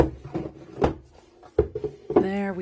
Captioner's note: thumps of satisfaction from released lid